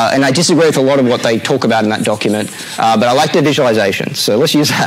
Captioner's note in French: rires